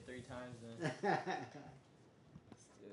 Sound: laughing

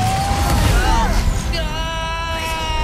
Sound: woosh!

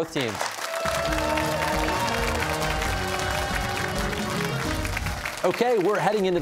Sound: cheers and applause

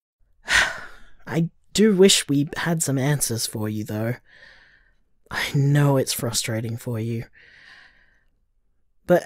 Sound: sigh

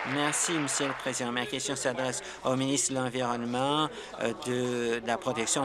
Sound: applause

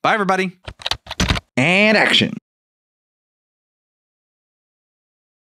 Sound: typing

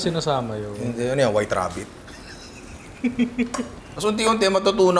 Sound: laughs

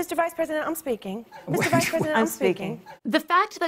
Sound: laughs

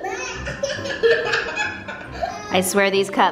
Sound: laughs

